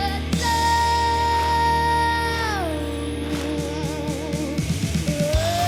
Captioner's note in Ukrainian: оплески